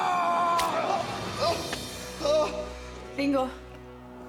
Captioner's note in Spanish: Gritos